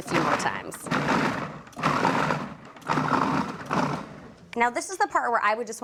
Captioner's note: pulsing